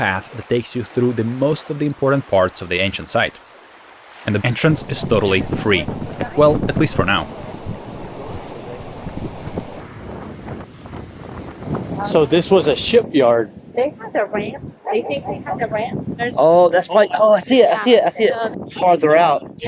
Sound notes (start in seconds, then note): 9.8 waves crashing; 9.8 wind whooshing